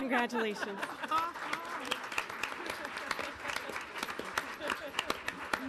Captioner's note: audience applauding